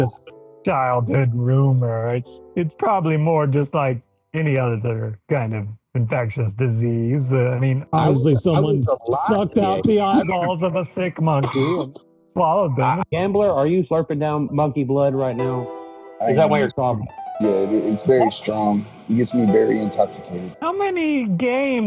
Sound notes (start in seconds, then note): 7.9 coughing